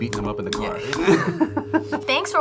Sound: laughs

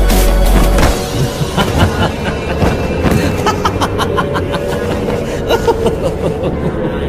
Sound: evil laughter

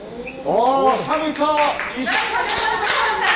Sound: clap clap clap

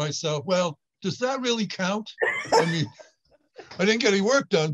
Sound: laughs

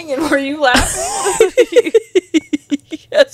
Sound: panel laughing

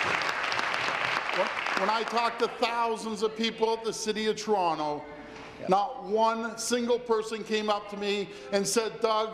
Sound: applause

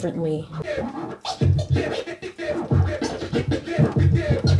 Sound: record scratching

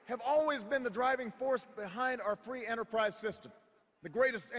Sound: none

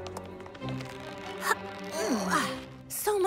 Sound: grunting

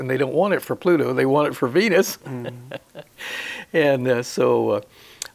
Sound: he chuckles

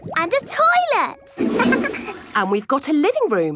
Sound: toilet flush

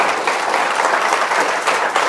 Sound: applause

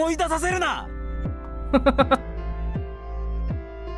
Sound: chuckles

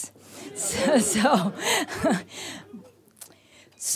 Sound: laughs

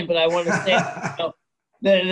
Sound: laughs

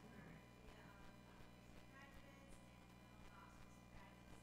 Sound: speaking faintly off mic

